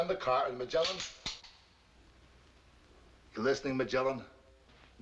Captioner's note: gun clicking